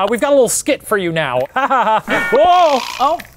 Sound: laughing

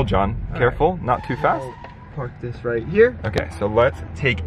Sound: tires squealing

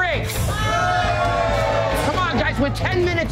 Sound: all cheer

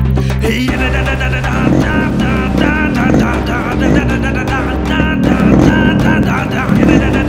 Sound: bike revving

